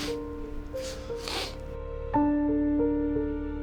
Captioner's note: sniffling; sad, thoughtful piano music